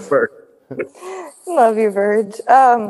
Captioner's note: giggles